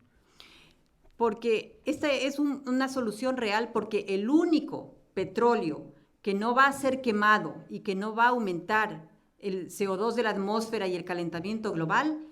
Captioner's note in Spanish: Español